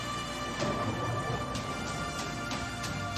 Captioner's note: power turning on